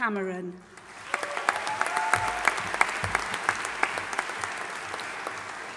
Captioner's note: audience applauding and cheering